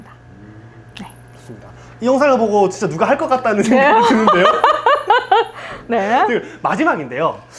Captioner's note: laughs